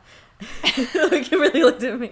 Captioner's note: both laugh